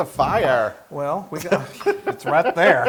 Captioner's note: laugh